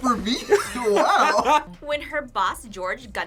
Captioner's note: both laugh